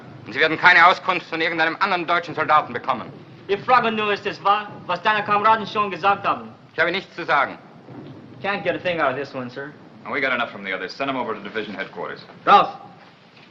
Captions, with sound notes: [SPEAKING IN GERMAN] [SPEAKING IN GERMAN] Can't get a thing outta this one, sir. We got enough from the others. Send him over to division headquarters.